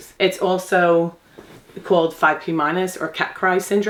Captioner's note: none